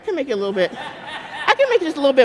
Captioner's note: audience laughing